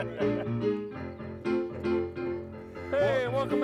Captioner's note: laughing